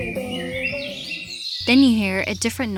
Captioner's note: birds chirping